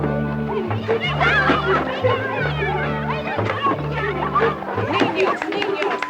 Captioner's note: children yell over each other; Gillis speaks Spanish